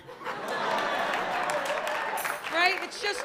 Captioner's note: laughter